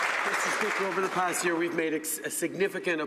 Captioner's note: some Applause